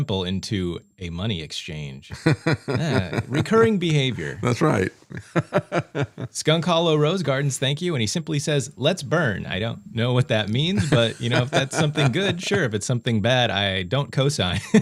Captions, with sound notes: into a money exchange. (Laughing) Recurring behavior. That's right. Skunk Hollow Rose Gardens, thank you. And he simply says, "Let's burn." I don't know what that means, but if that's something good, sure. If it's something bad, I don't cosign.